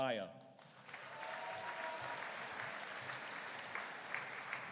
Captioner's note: audience cheering